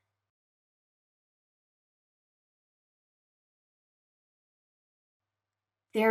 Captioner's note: silence